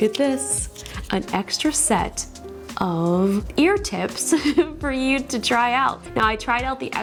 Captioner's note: chuckles